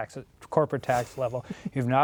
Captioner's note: laughs